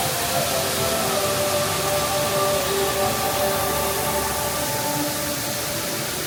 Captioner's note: bright music; water whooshing